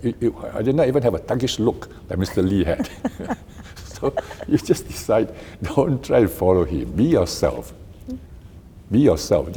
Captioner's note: both laugh